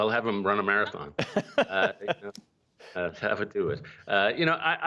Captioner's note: laughter